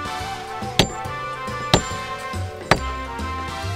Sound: knocking noise

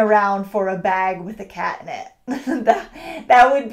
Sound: chuckles

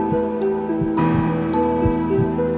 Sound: heartbeat

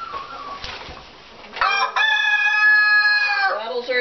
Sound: crowing

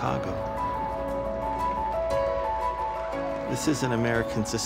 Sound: clapping

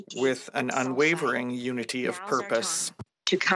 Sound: speaking French

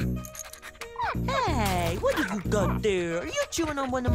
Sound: barks

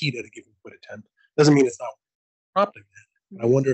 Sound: audio blurs

